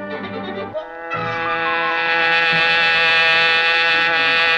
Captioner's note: hornet buzzing